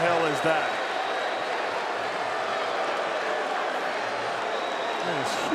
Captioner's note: crowd murmuring